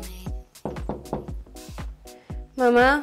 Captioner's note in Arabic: يقرعون على باب غرفة النوم